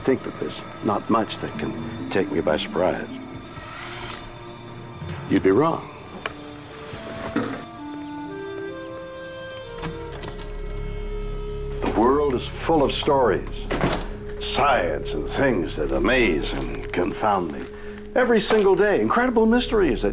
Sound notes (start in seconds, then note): 10.1 door latch clicking; 13.9 door banging